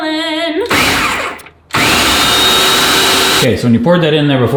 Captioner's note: blender whiring